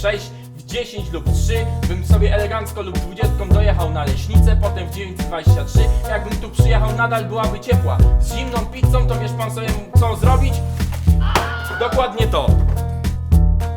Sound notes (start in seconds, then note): 10.9 hit sound; 11.2 scream